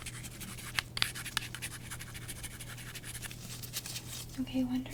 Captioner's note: writing sounds